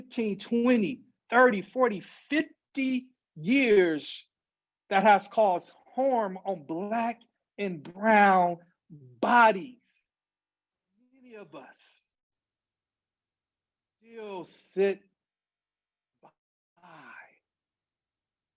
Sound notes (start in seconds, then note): 12.4 audio cuts out